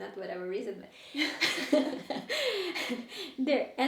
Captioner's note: all laughing